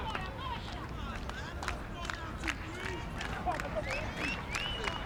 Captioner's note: fans yelling and clapping